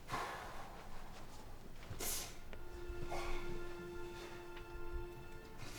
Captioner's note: sighing; sniffing; somber music